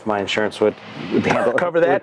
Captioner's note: door closing; laughs